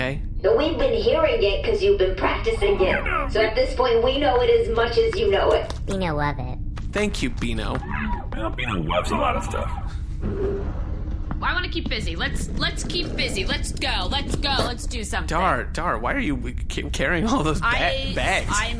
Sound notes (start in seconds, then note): 11.4 door opens; 11.6 agitated